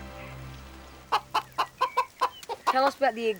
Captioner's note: chicken clucking